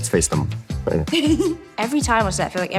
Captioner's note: chuckles